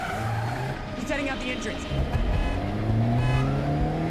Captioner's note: horn honking